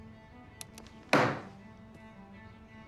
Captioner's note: bangs on table; mellow music